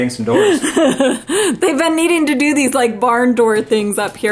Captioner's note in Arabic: تضحك